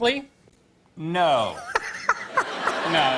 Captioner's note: laughter